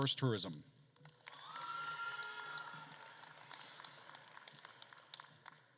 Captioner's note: attendees cheering and applauding